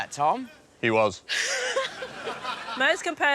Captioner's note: laughs